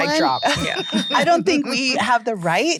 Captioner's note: giggles